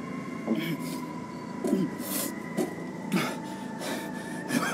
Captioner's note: Babcock breathes heavily